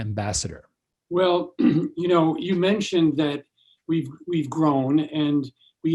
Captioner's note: clearing voice